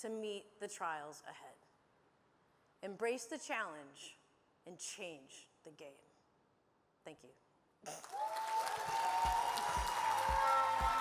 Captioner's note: cheering and applause